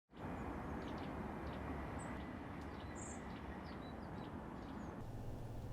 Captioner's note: birds chirping